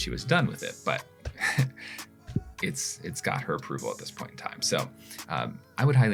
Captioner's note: chuckles